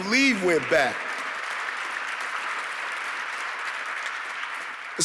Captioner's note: audience clapping